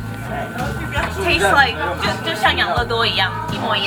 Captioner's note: speaking Chinese